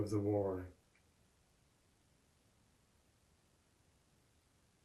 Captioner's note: pauses 8 seconds